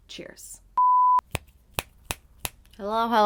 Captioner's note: beeping; snapping